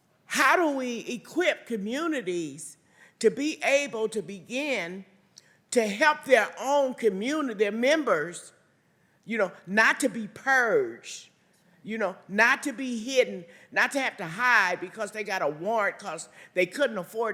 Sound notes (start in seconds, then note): none